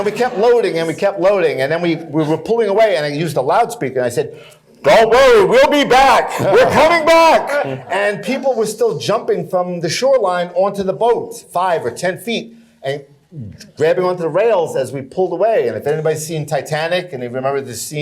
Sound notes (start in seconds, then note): 4.6 mimicking loudspeaker